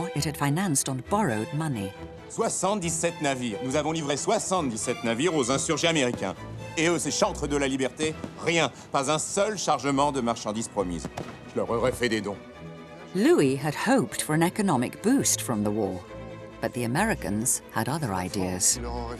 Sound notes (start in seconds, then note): 2.3 dramatic music; 2.3 man speaking in French